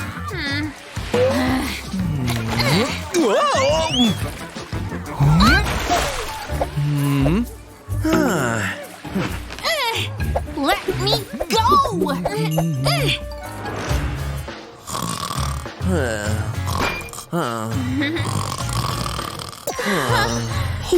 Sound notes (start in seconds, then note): 3.2 snoring